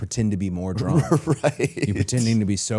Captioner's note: laughs